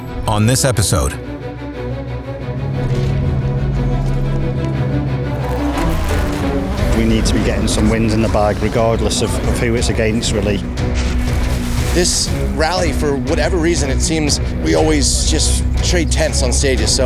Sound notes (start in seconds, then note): 0.0 dramatic orchestra music; 2.9 engine revving